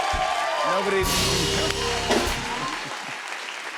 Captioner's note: cheers and applause